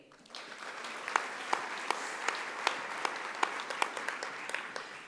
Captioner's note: audience applauding